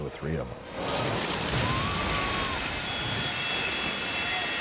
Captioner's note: person screams